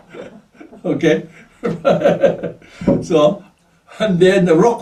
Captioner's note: laughs